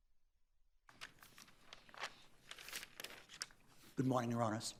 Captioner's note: papers rustling